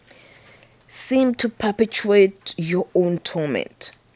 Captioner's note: none